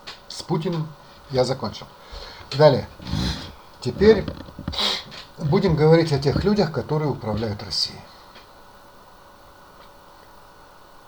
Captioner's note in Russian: фыркает